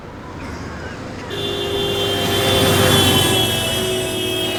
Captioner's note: horn blaring